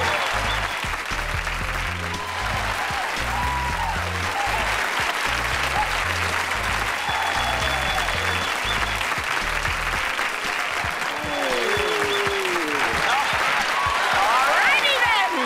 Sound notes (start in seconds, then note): 0.0 whistling; 3.1 cheering